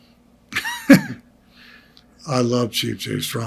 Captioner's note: Greg laughs